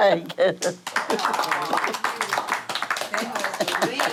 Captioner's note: guests applauding